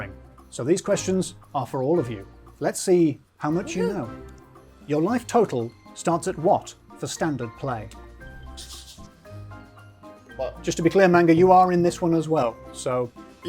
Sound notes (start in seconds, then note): 8.4 pen rasping